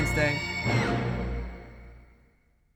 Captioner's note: scream